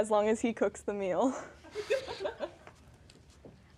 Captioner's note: laughing